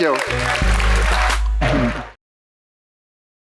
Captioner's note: audience applauding